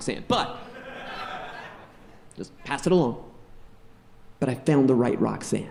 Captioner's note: audience laughing